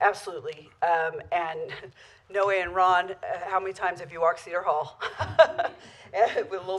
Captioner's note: laughter